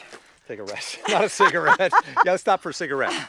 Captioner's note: laughing